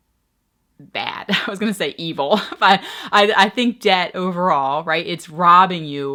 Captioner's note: laughing